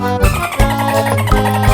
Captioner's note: phone ringing